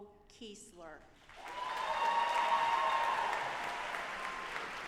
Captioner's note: audience applauding